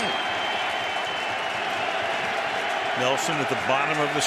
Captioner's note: cheering